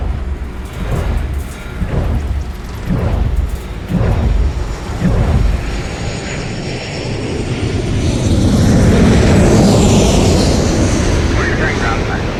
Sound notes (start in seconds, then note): 0.0 metal wind turbine blades hum as they rotate; 5.6 airplane engines whirring